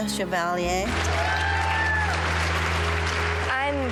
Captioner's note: applause